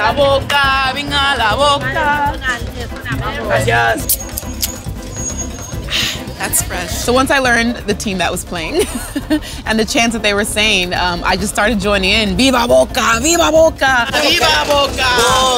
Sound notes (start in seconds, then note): 0.3 singing in Spanish; 8.6 laughs; 13.7 chants in Spanish